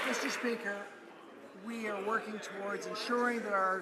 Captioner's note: applause